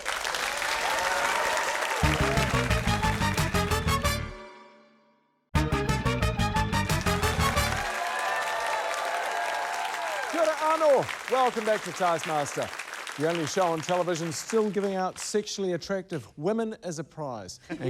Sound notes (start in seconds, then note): 0.0 cheering, applause; 2.0 upbeat fanfare; 8.9 cheering, applause